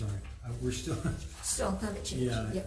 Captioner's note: chuckles